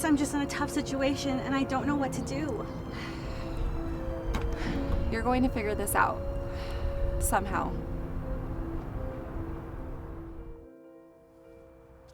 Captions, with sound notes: I guess I'm just in a tough situation, and I don't know what to do. (Eden sighs) (dramatic piano music) - You're going to figure this out... Somehow.